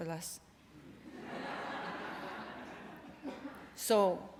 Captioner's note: laughter